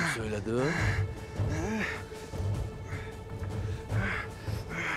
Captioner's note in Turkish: Nefes sesi